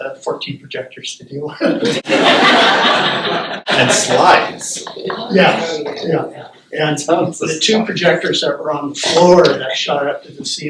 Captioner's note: laughter